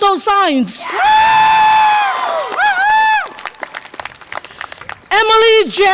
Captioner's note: audience applause and cheer